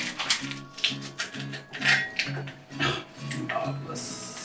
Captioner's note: garlic crunching; bowl rattling; grunts